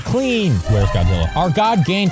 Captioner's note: FNAF Hallway sound